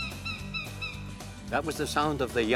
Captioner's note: hawk sounds